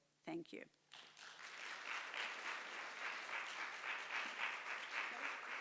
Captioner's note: audience applauds